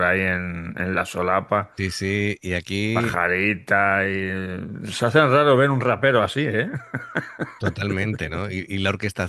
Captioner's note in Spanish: risas